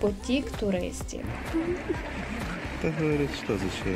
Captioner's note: Сміх